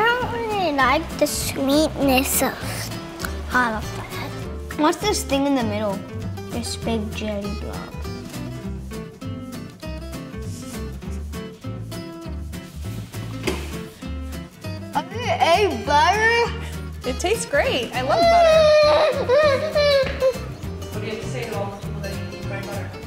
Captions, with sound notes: - I don't really like the sweetness of those. - What's this thing in the middle? This big jelly blob. I think I ate butter? (whimpers)